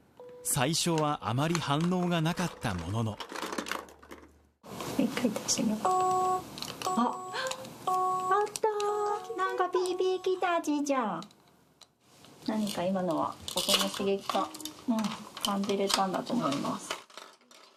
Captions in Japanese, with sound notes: 最初はあまり反応がなかったものの… [機械音 ピー、ピー] 看護師「一回出してみよう」 「あっ、あっ」 看護師「なんかピー、ピーきたちーちゃん」 看護師「何か今のは音の刺激が感じられたんだと思います」